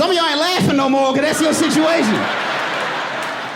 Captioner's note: audience laughing; laughing